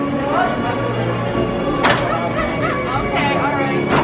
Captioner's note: bright music; metal clanking